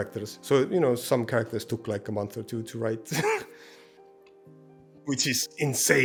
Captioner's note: scoffs